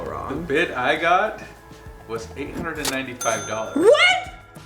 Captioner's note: male Voice